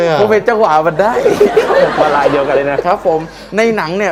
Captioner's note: laughter